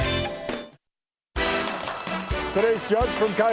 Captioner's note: people clapping